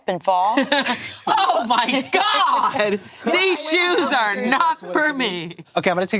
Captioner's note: laughs